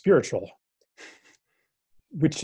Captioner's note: lacht